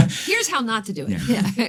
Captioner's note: chuckles